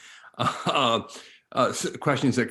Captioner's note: chuckles